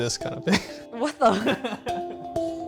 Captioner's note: laughter